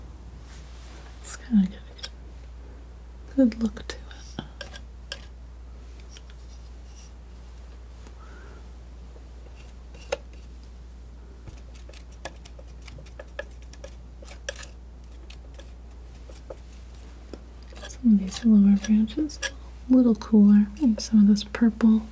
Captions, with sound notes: it's kind of got a good look to it. [tapping on tree] Some of these lower branches... a little cooler. Maybe some of this purple.